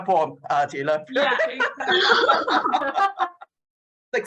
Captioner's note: laughter